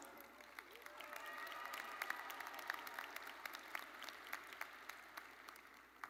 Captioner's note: audience cheering and applauding